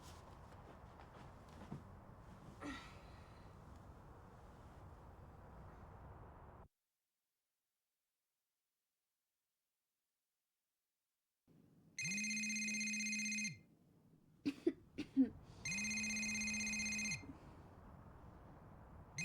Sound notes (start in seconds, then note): 2.4 Liz groans; 12.0 cell phone ringing; 14.4 Liz coughing